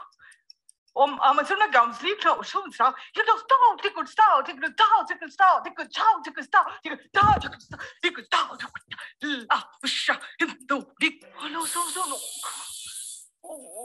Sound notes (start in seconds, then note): 3.4 chanting gibberish; 11.5 tattoo gun buzzing